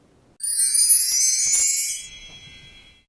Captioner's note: twinkling